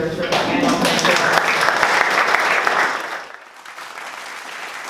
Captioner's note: applause